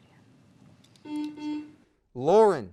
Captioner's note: beep